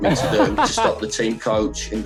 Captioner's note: laughs